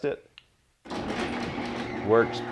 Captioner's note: garage door clunking